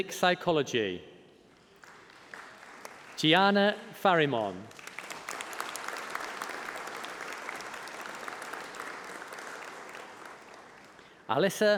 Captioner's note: applause